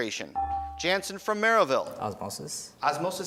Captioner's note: beeping